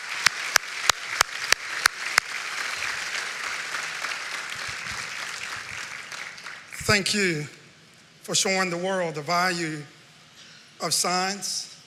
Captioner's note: applause